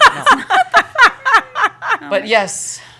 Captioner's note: laughter